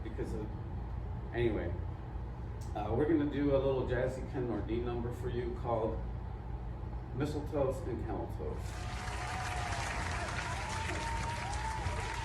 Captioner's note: applause